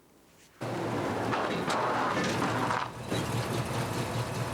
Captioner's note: van engine rumbling